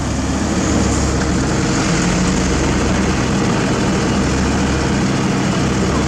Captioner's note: engine